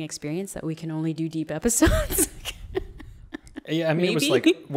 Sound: laughs

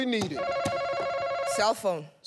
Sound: beep

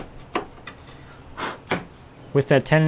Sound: blows

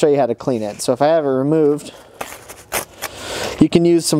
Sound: sandpaper tearing

